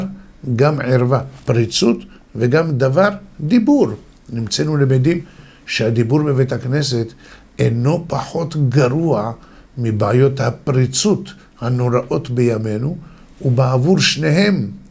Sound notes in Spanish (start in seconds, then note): 3.9 habla